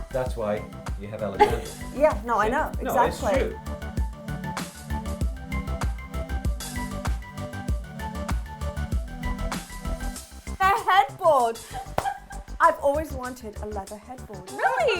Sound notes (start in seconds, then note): 3.9 upbeat pulsating music; 11.6 laughs